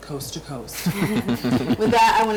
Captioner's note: group laughs